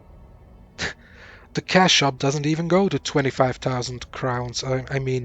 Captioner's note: laughs in disbelief